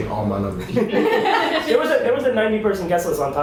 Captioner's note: laughing